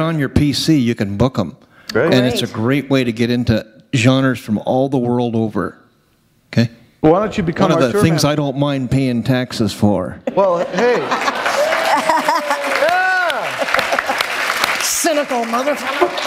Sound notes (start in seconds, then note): 10.2 laughter